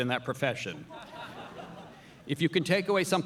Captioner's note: audience laughing